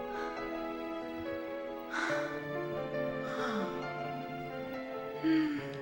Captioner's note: dramatic music; panting